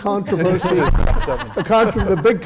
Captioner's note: laugh